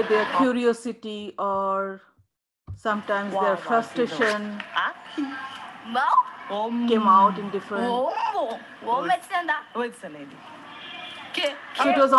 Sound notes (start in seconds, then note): 9.2 children speaking in foreign language; 10.0 speaking gibberish